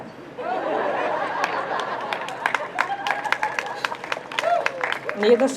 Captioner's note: crowd laughs and applauds